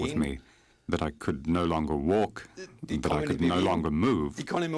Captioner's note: speaking in foreign language